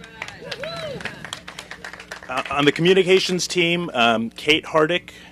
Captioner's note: applause